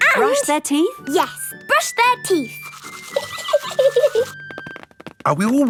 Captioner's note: giggling